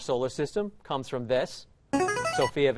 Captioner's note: chiming